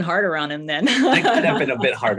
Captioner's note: laughs